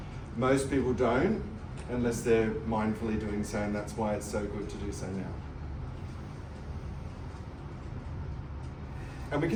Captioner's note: nose breath